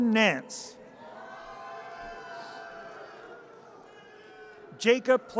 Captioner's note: audience cheers